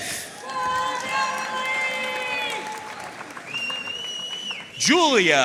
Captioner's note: audience cheering and applauding